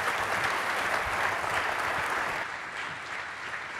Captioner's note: applause